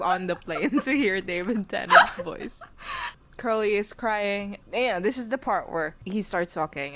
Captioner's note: laughing